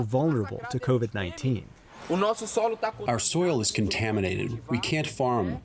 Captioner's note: through translator